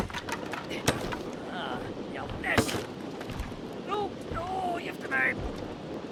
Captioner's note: character laughs; character speaks gibberish